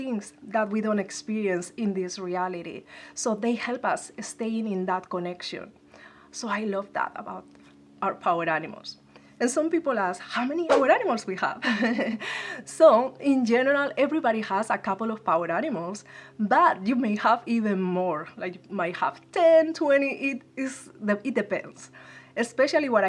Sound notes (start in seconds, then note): 11.6 laugh